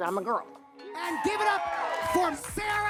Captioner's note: attendees cheer and clap